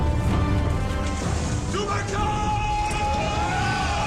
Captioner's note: yells